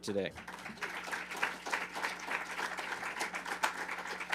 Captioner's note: attendees applauding